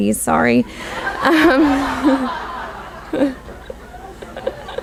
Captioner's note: audience laughs